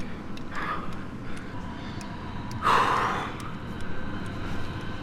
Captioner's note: breathing